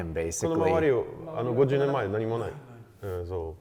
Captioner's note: men speaking in Japanese